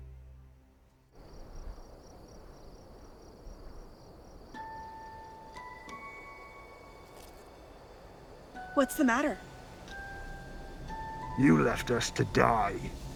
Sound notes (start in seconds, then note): 1.3 crickets chirping; 1.3 wind rustling; 4.7 gentle music